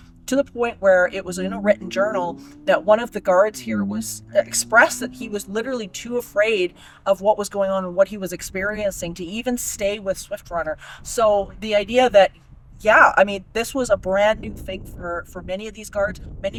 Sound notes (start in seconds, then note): none